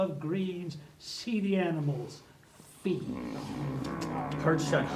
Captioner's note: chewing and sounds